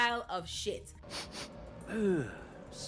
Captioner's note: sniffs